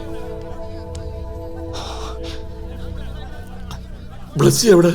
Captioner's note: indistinct chatter